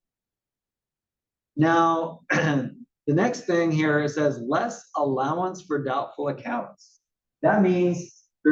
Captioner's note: cough